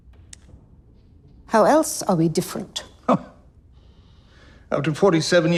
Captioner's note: Phillip scoffs